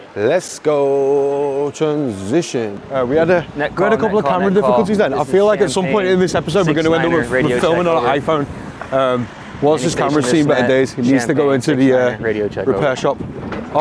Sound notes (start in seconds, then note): 4.3 speaking off camera